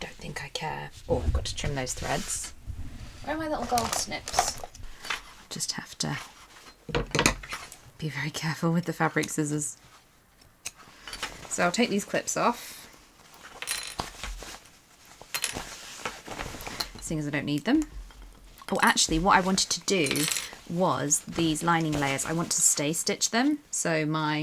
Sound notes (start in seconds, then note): 17.8 clips rattling